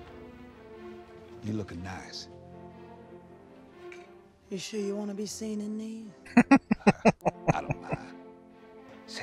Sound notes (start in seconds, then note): 6.2 laughing